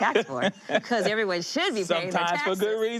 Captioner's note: laughs